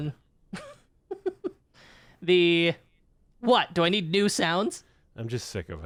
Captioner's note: giggles